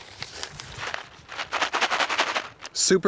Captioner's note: paper crinkling